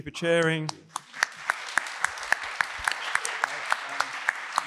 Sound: applause

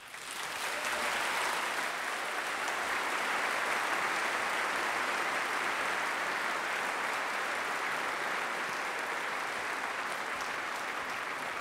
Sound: applause

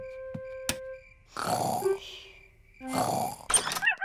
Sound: both snoring; rooster crowing

